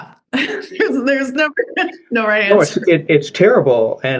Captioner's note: chuckling